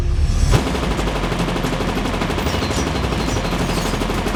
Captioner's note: gun firing